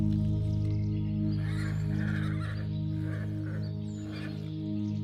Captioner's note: birds chirping; horses whinnying